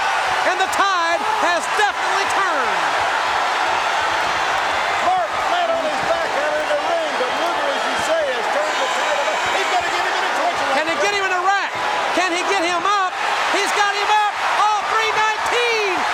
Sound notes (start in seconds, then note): 2.7 audience cheering